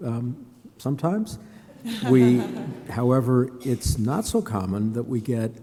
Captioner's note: laughter